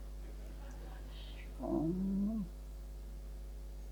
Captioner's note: laughing